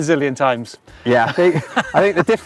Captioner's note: both laughing